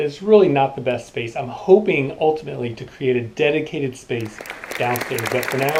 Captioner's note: applause